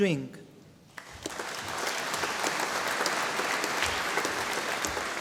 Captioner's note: audience applauding